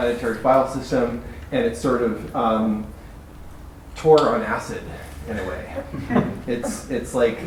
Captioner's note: laughter